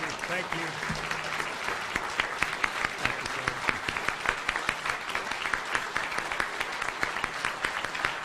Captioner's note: applause continues